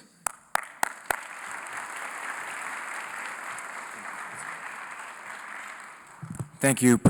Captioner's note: applause